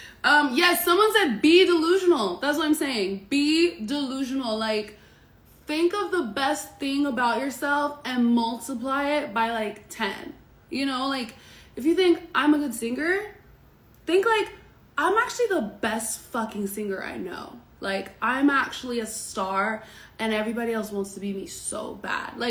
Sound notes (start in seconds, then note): none